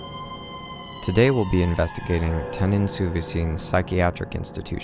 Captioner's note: speaks French